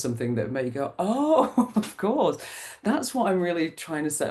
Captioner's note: laughs